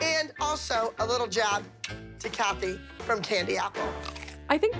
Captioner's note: clicks tongue